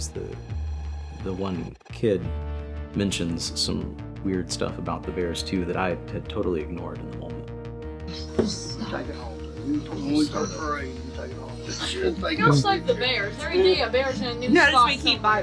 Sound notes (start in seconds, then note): 9.6 people mumbling